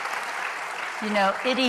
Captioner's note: applause